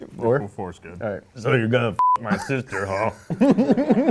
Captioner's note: beep